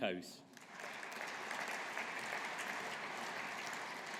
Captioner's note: audience applauding